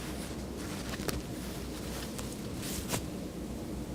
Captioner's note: clothing rustles